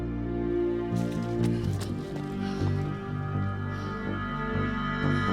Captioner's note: Nellie pants